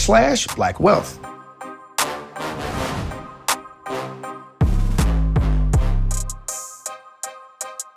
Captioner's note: dramatic music; logo swooshing in